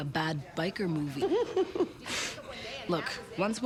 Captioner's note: Nora laughs